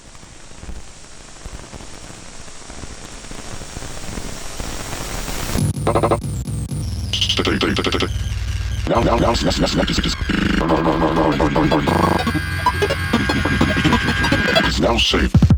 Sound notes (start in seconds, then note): 7.0 chaotic and stuttery noises play beneath the equally chaotic samples